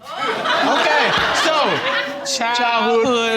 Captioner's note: crowd laughing